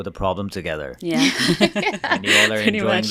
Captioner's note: interviewees laugh